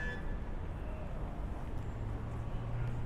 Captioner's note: traffic noises